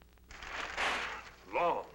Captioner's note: newspaper rustling